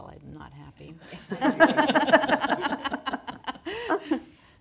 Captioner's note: everyone laughing